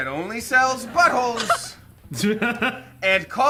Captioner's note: group laughs